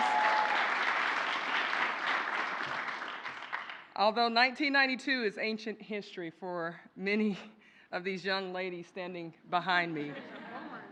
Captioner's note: applause